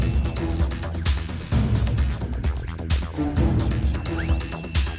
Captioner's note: static and beeps